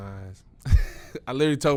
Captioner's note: laughing